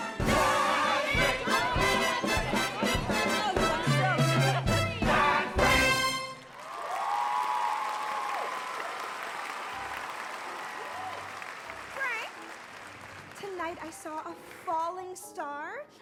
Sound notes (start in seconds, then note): 2.2 lively chatter; 6.5 audience cheering